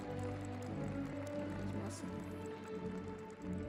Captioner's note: audience applauding